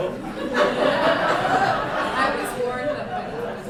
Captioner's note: laughter